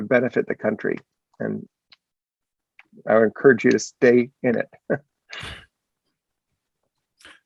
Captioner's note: laughs